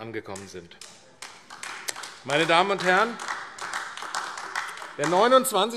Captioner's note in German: Beifall AfD